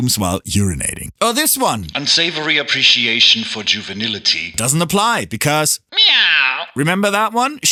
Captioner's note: meow